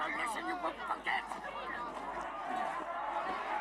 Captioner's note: applause